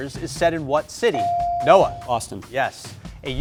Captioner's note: buzzer chimes